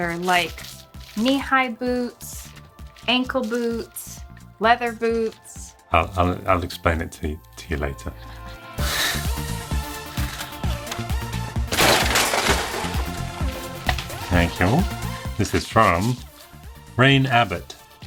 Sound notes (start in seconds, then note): 8.9 upbeat music; 11.6 object thudding